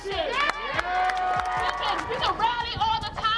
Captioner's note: cheering